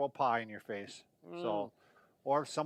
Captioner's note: worried sound